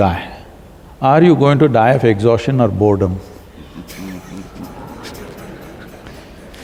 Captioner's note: laughter